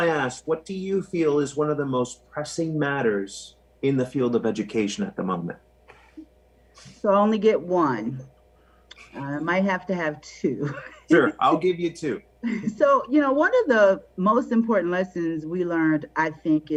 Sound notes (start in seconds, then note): 10.6 laughing